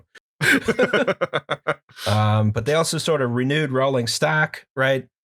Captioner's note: laughter